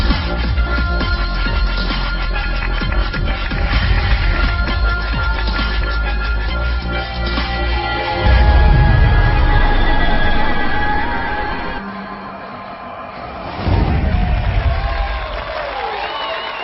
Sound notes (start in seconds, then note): 9.9 music stops; 13.1 people cheering